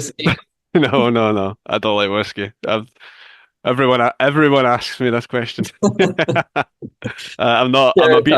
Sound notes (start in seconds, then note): 0.7 chuckles; 6.7 laughs